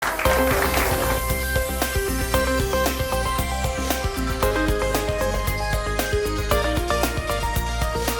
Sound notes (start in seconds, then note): 0.0 people clap; 0.1 upbeat music